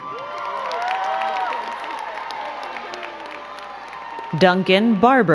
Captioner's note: crowd cheering and clapping